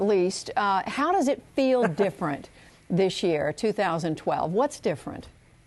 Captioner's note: laughter